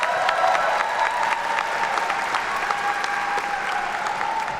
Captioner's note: attendees cheer and clap